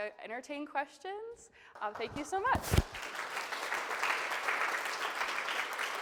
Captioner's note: attendees clapping